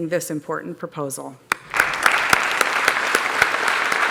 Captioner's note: applause